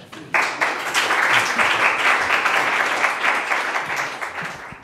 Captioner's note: audience applauds